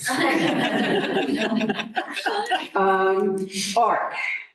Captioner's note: laughter